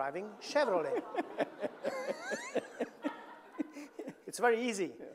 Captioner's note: all laughing